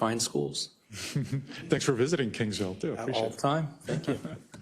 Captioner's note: laugh